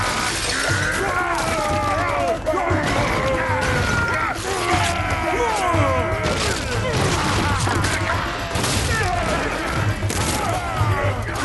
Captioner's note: bellowing growls; smashing